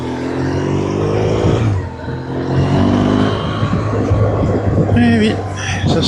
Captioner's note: engine